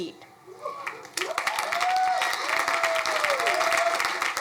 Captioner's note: crowd applauding